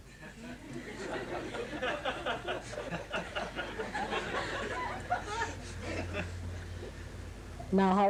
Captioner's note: laughter